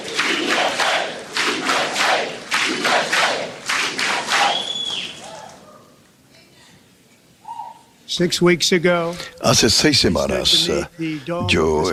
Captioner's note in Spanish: aplausos